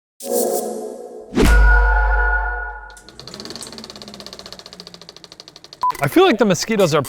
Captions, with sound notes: (logo whooshing) - I feel like the mosquitoes